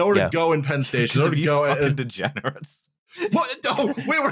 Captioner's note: laughing